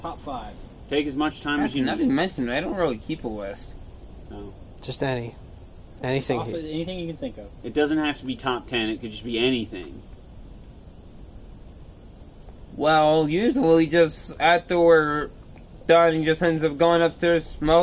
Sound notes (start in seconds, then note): none